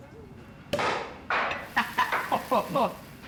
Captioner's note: bottle pops